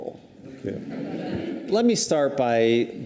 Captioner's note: audience chuckles